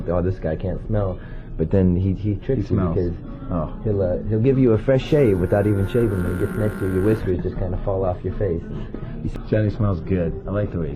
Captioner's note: Chum Bucket sound effect